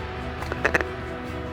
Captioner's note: duck calls